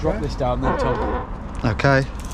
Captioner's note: latex creaking